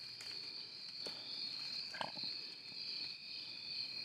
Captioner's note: insects chirping; branches cracking